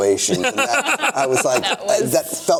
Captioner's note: laughing